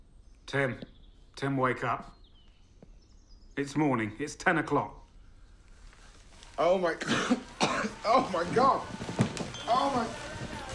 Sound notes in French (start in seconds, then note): 7.0 tousse